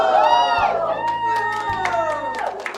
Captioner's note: group applauds; group cheers